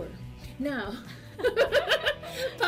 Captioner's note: laughs